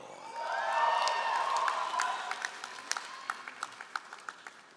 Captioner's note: all applauding